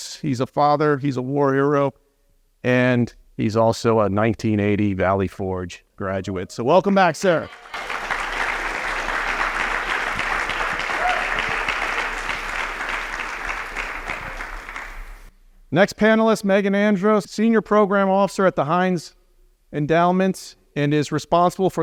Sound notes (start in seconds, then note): 7.3 applause